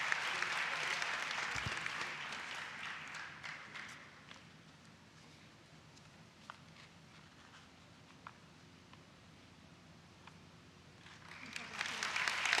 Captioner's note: applause